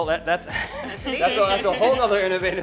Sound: laughter

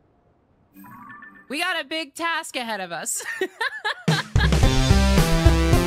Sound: laughter

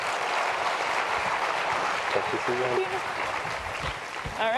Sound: applause

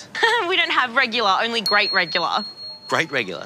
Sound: laughs

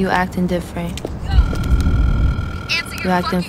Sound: phone calling

